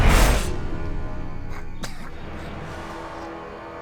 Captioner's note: coughing